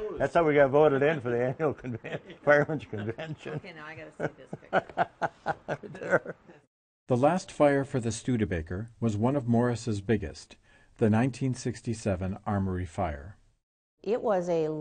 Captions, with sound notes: that's how we got voted in for the annual Fireman's Convention. (laughs) - [Voiceover] The last fire for the Studebaker was one of Morris' biggest. The 1967 armory fire.